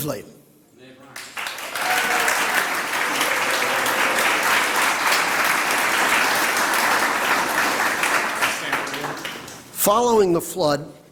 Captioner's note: applause